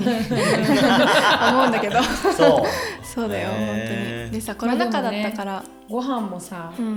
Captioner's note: laughter